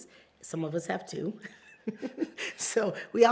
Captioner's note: laughs